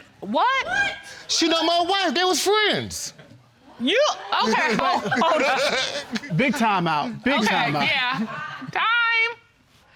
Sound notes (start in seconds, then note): 4.2 laughs